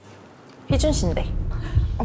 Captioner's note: no brakes sound effect